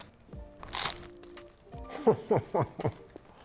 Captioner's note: crust crunching; laughing